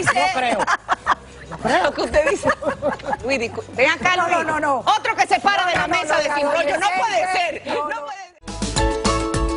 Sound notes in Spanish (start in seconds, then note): 2.5 risas